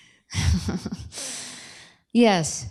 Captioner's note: chuckles